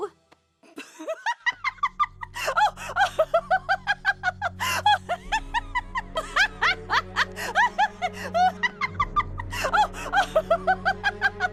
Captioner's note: laughs